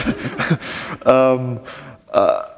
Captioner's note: chuckle